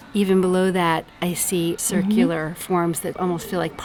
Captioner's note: voiceover